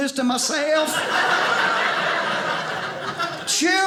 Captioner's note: audience laughing